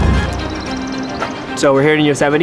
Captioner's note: birds chirping; mellow dramatic music